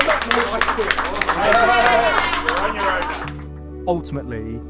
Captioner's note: wrestlers applauding